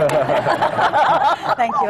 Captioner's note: laughter